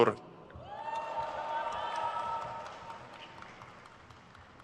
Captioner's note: crowd cheers